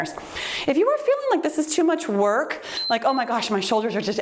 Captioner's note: timer beeps